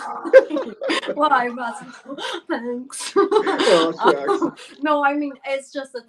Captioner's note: giggles